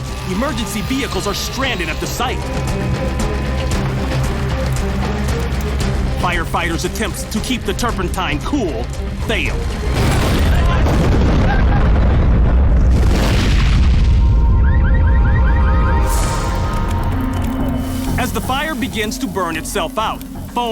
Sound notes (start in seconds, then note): 9.2 explosions; 14.3 car alarm blares